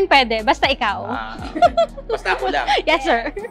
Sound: laughs

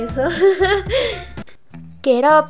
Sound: laughs

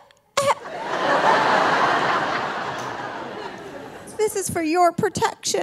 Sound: audience laughing

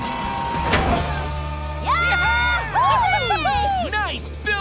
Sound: cheering

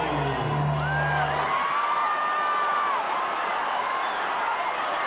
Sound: crowd screams

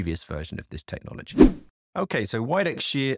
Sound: swooping transition

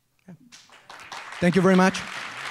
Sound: applause

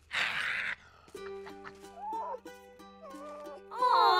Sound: snarling; whimpering

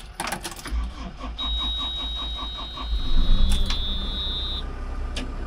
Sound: engine turning over

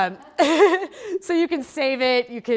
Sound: laughing

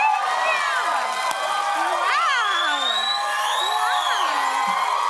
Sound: cheers and applause

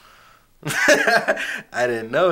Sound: laughing

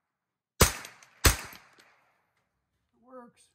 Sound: gun bangs

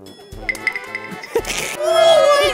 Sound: just laughing

